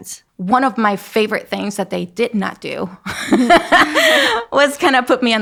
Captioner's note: laughing